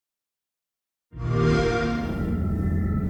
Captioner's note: xbox sound